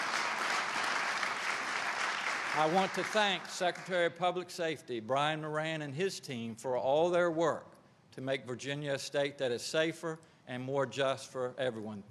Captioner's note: applause